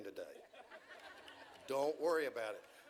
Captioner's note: audience chuckles